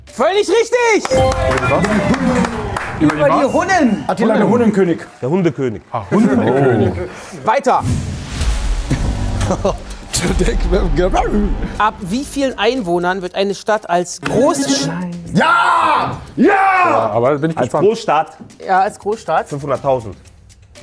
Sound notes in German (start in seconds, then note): 6.0 Lachen; 7.8 Spannungsvolle Klänge